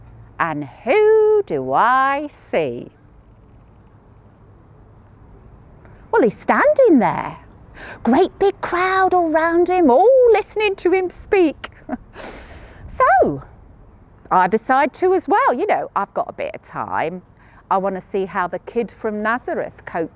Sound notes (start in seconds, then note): 11.7 chuckles